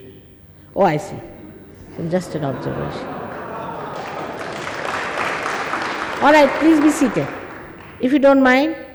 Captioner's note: all clap n laugh